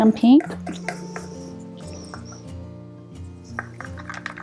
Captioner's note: stirrer scraping